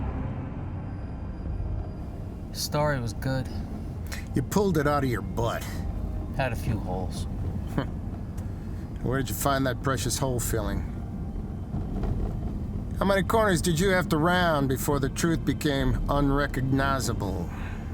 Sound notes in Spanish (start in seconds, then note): 0.2 la música se desvanece; 7.7 risas